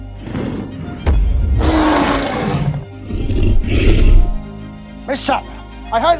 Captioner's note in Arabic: صوت داس وهدير لتي ريكس